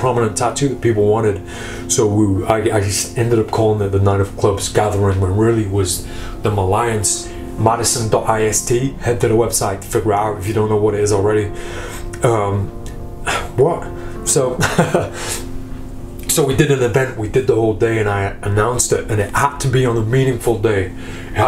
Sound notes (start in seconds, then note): 14.6 laughing